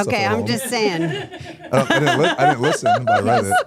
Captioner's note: laughs